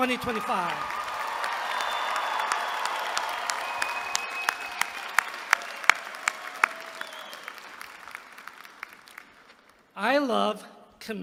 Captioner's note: applause